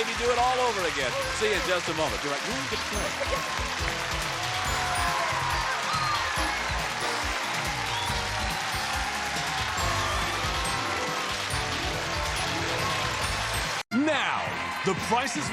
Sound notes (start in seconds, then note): 3.2 audience applause; 3.2 theme music playing